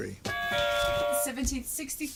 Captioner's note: buzzer